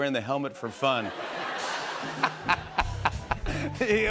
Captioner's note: laughter